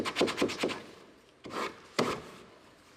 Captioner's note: sanding